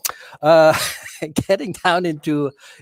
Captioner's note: laughing